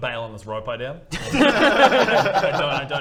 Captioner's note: relieved laughter